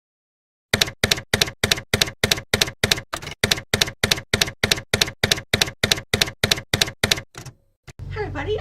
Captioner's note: typewriter keys clacking